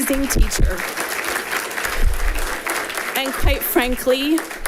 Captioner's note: people clapping